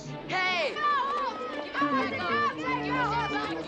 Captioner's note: all yelling